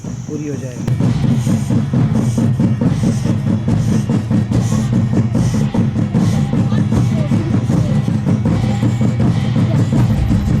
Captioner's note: intense drumming; metal clanking